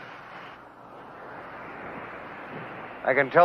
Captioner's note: waves rumbling